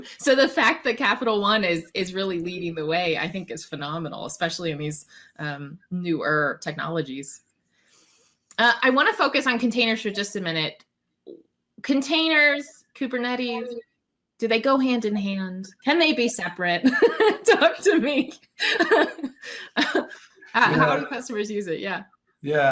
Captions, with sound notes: So, the fact that Capital One is really leading the way, I think is phenomenal, especially in these newer technologies. I wanna focus on containers for just a minute. Containers, Kubernetes, do they go hand in hand? Can they be separate? Talk to me. (laughs) How do customers use it?